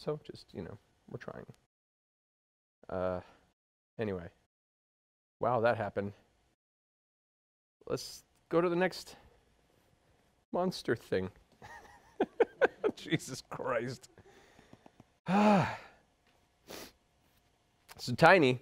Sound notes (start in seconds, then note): 11.6 laughing; 14.2 sighs